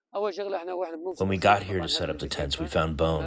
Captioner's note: through translator